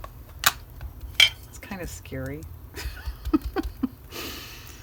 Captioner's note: laughs